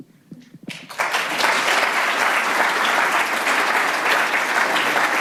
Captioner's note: audience applauds